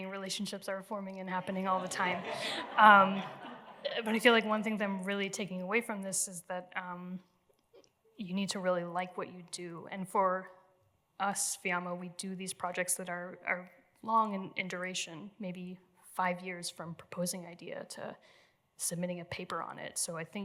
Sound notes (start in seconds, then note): 1.8 laughter